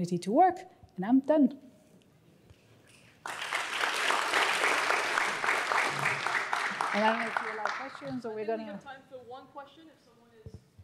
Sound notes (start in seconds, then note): 3.2 applause